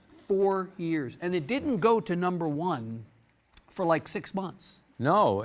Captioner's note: none